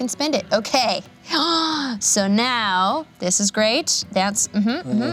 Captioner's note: gasps